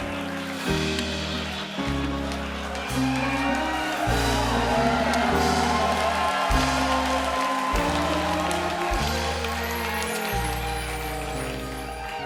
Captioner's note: cheers and applause